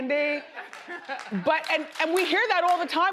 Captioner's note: audience laughs